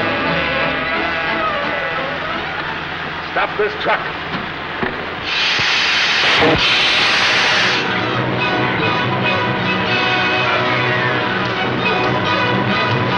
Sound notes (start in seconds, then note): 4.8 fizzing sound; 7.8 dramatic, orchestral music